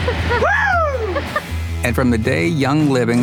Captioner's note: laughs